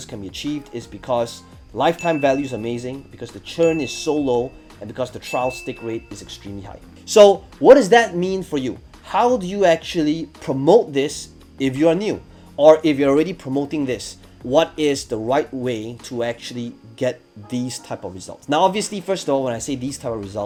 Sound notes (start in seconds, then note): 1.9 bell dinging